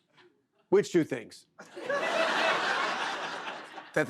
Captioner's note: laughter